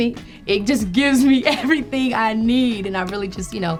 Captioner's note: laughing